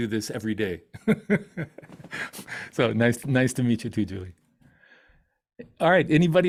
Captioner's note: laughs